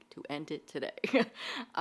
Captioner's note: laughs